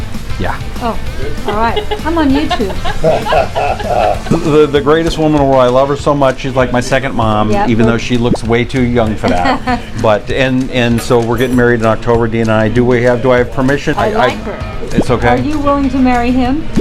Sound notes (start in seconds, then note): 1.4 laughter; 9.2 Suzanne laughs